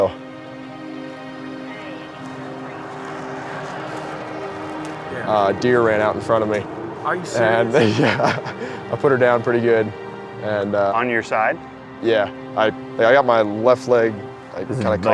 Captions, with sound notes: (engine noise drowns out mother) - A deer ran out in front of me. - Are you serious? - Uh, (laughs), yeah! I put her down pretty good, and uh, - On your side? - Yeah, I got my left leg kinda caught,